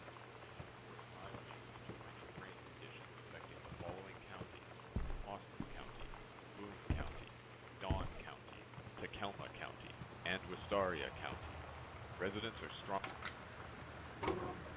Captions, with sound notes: [Muffled Voice] "...high winds and torrential rain conditions expected in the following counties: Austin County, Boone County, Dawn County, Tacoma County, and Westoria County. Residents are strong-"